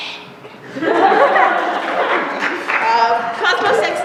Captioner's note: laughter